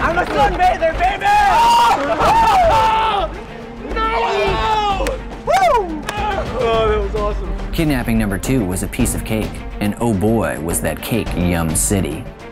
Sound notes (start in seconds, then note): 1.7 laughing, cheering; 3.8 whooping